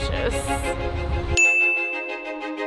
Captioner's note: bell rings; inspirational music